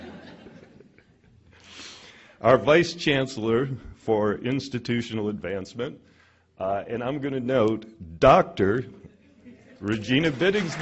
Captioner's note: laughter; applause